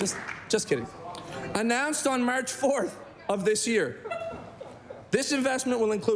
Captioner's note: applause